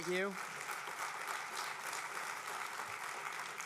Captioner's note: applause